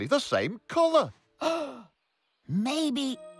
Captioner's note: gasp